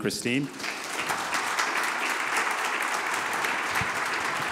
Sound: audience applause

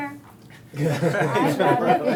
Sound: all laughing

